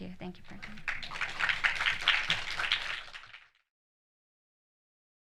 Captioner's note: audience clapping